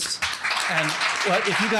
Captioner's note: applause